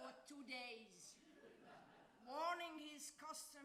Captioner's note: audience laughs